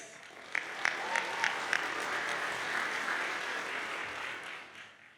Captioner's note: audience cheers and applauds